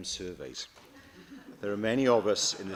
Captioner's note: laughter